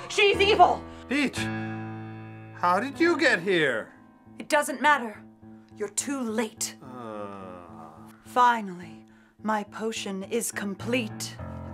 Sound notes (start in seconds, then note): none